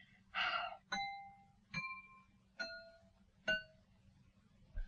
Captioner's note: knife clanging